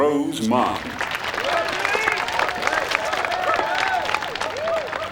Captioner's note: cheers and applause